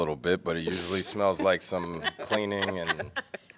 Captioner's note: laughter